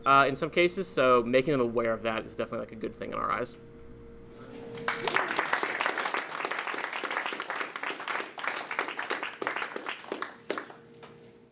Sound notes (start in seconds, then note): 4.8 audience clapping